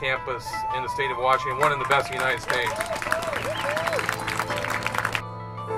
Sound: applause and cheers

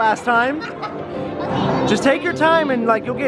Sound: giggles

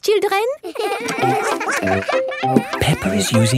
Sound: all giggling

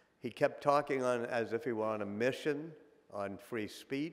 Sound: none

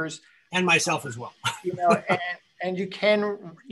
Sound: laughs

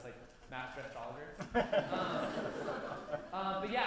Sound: laughter

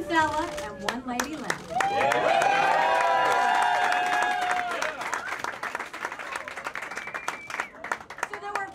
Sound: applause

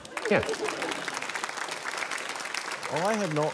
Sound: applause

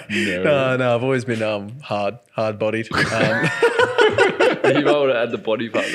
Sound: laughing

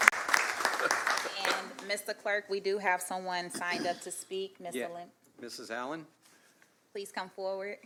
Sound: applause

